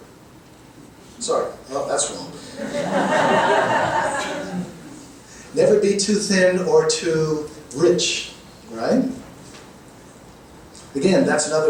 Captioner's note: audience laughing